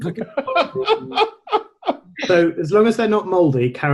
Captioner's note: laughing